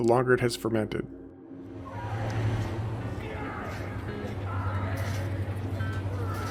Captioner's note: traffic and crowd noises